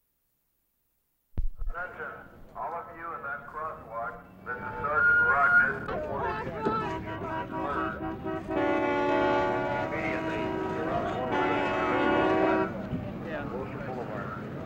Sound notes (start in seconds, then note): 1.4 police Announcement over Bullhorn; 6.1 car horns honking; 13.4 police over bullhorn